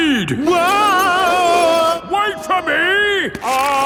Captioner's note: yelling